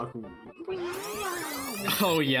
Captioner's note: imitates stock rewind sound effect; stock rewind sound effect; imitates stock rewind sound effect